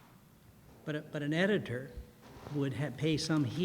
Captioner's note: voiceover